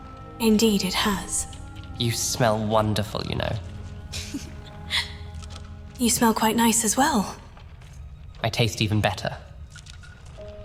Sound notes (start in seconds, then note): 4.1 giggles